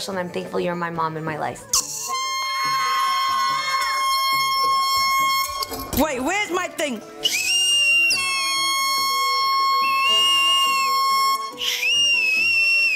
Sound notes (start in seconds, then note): 1.8 air horn squeals; 1.8 shouts; 7.2 whistle shrills; 8.0 air horn squeals; 9.9 whistle shrills